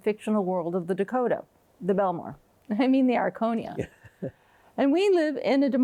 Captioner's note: chuckles